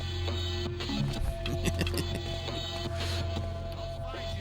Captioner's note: giggles